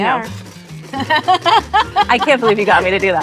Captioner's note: laughing